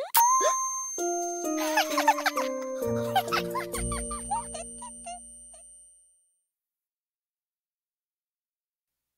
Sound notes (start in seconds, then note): 1.5 both laugh